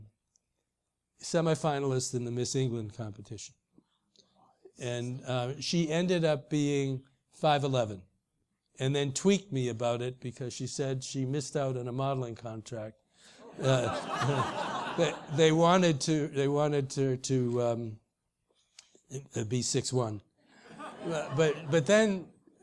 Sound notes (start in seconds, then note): 16.2 laugh